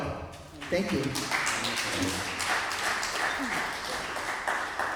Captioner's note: applause